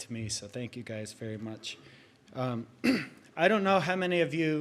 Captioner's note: clears throat